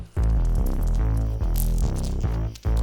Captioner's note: crunchy knife stab; beads rattle